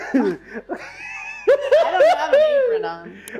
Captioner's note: guffaws